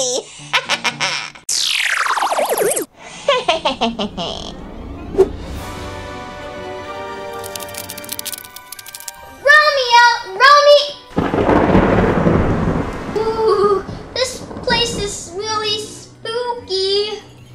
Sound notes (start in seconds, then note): 0.4 laughs; 1.4 space noises; 3.1 laughs; 3.5 adventurous music; 7.4 spider noises; 11.1 thunder